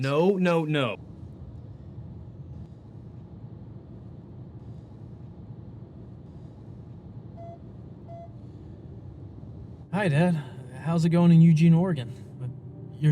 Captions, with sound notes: No, no, no. (car ambiance) Hi, Dad. How's it going in Eugene, Oregon?